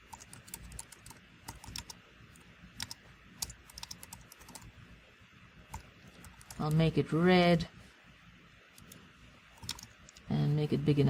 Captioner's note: pause